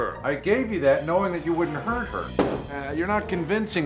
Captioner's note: thumping sound